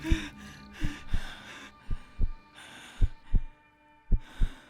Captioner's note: heart beating